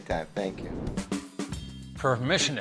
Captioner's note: air whooshing; upbeat music